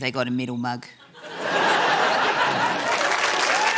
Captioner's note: laughter